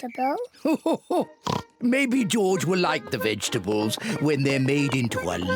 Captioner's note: laughs